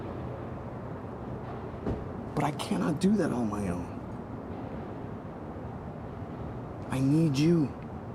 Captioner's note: none